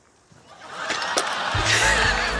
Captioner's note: laughter; laughs